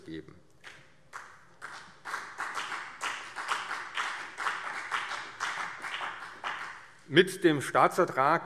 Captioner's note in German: Beifall CDU und BÜNDNIS 90/DIE GRÜNEN